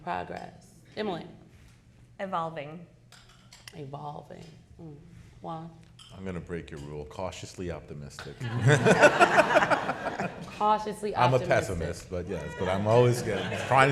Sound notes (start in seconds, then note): 8.4 people laughing